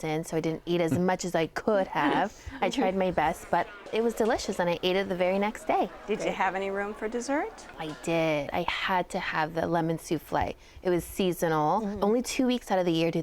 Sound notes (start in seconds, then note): 2.0 chuckles